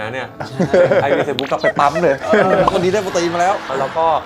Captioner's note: laugh